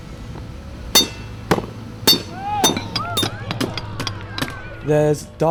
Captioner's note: clanging